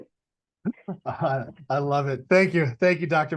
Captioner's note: chuckles